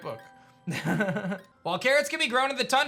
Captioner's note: soft laughs